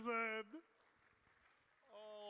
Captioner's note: applause